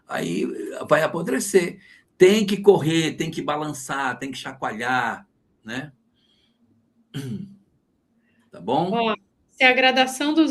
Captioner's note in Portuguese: limpando a garganta